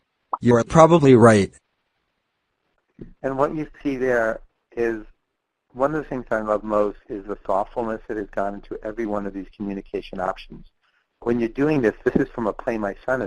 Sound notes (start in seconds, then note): 3.4 voiceover